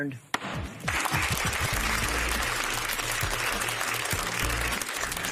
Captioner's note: applause